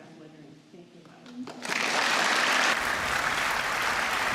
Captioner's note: applause